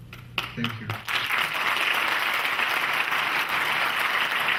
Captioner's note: clapping